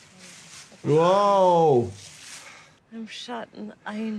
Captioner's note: leaves crunching